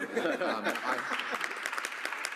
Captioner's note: applause